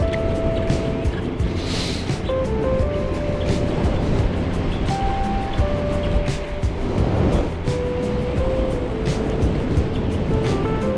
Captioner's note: speaking In Foreign Language